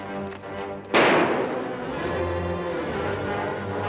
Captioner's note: gunshots